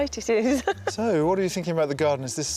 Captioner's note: giggling